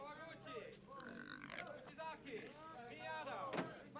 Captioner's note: pig squeals